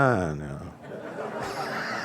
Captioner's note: laughter